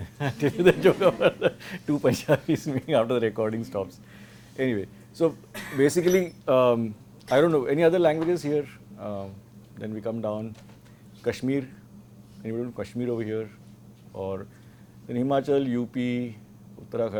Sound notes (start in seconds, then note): 5.6 laughter